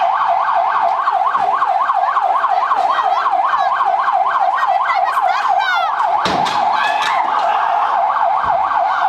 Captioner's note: people yelling as sirens continue